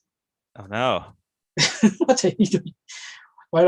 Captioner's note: laughter